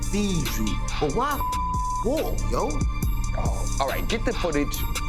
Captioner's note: beeps